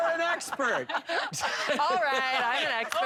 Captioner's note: laughter